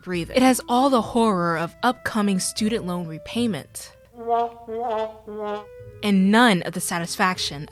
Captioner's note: womp Womp Womp